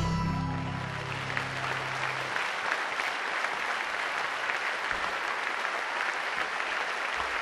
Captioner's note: applause